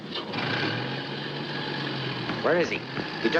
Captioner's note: car engine rumbling